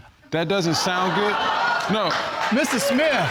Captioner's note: audience exclaiming